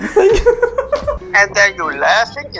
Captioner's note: both laughing